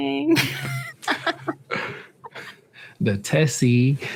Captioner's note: laughs